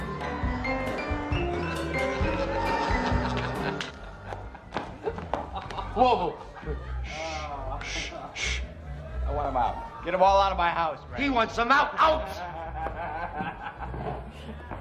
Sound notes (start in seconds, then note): 2.0 Mickey laughs; 13.3 Mickey laughing